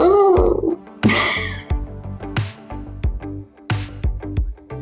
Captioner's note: laugh